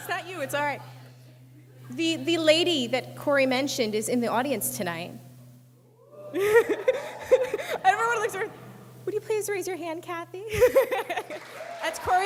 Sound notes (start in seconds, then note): 6.2 speaker laughs